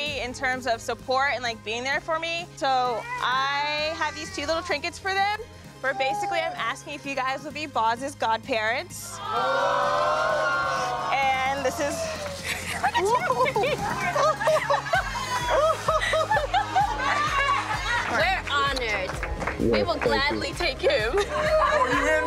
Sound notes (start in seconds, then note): 11.6 laughs; 14.2 all laughing